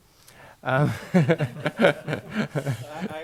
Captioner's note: laughing